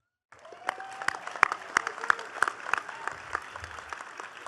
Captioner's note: attendees clapping